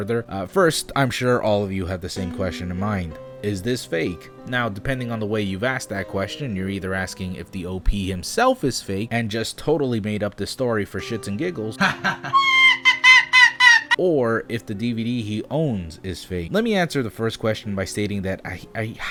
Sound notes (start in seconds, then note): 11.8 man laughing; 11.8 dog laughing high pitched